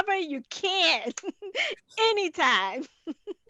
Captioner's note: laughing